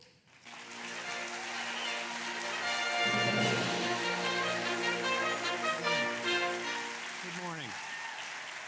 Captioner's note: applause